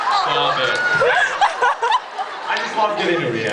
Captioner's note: laughs